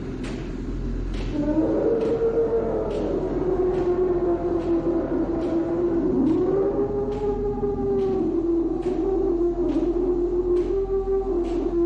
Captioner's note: whale roaring